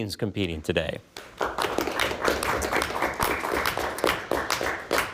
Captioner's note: all clap